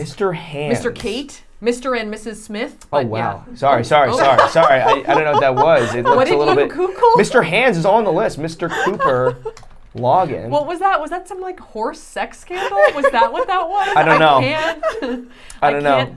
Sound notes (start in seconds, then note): 4.1 laughing; 8.7 laughing; 12.5 laughing